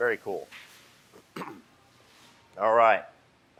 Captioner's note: clears throat